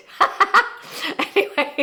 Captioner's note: laughing